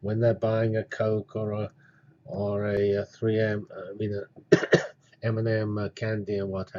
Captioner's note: cough